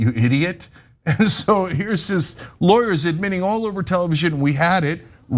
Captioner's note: laugh